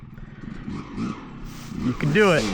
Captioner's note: engine revving